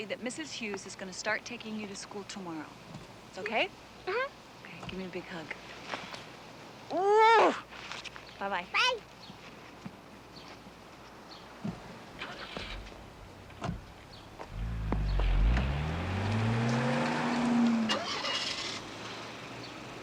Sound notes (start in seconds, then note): 12.3 car engine revving; 17.6 car engine starts